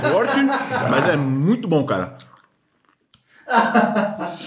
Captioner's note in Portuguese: risos